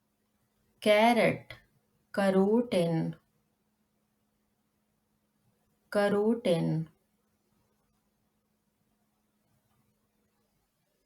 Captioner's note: In German: Karotten